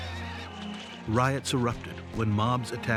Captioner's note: shouting, whistling